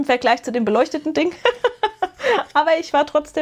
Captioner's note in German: gelächter